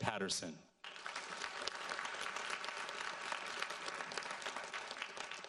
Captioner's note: audience applauds